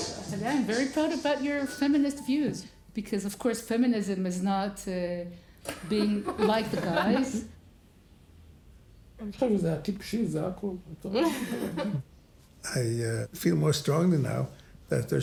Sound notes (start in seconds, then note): 0.0 upbeat music; 9.4 speaking foreign language